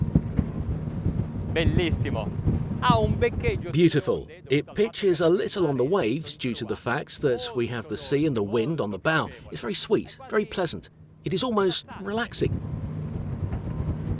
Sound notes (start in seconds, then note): 1.8 speaking foreign language